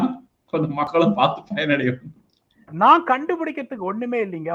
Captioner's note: chuckles